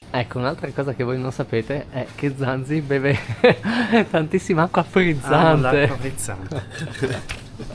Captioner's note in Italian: risate